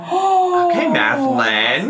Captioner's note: gasps